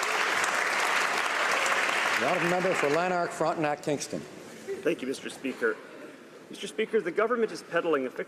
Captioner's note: applause